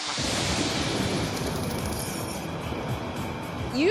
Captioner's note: thunder crashes